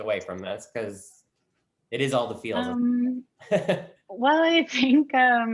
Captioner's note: laughs